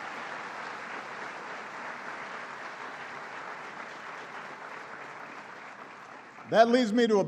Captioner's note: applause